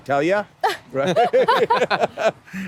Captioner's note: laughing